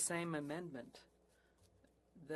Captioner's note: speaking French